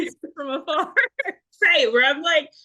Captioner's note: laughs